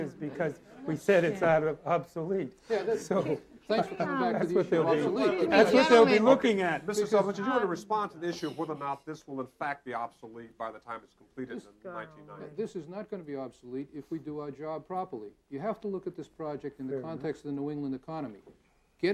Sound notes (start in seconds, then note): 3.1 laughing; 5.4 participants exclaiming